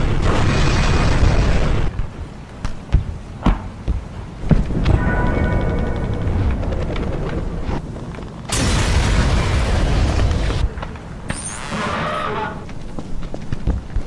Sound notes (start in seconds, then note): 8.4 explosion